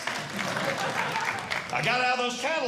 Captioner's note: audience Laughing